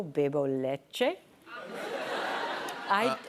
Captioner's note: laughter